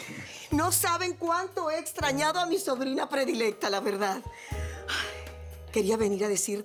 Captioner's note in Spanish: Sube la voz